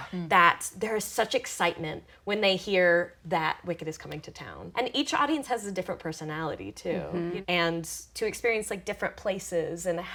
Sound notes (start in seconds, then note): none